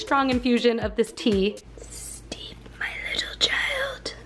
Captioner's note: whispering: steep my little child